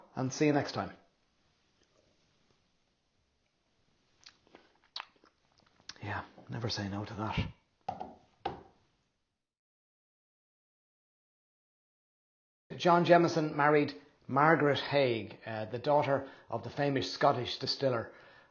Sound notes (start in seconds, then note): 8.0 fingers thrumming on table top